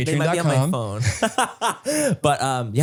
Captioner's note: Manny laughs